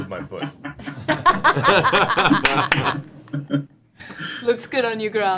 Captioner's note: all laugh